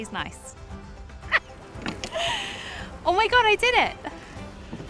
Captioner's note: laughs